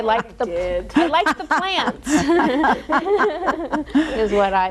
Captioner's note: all laughing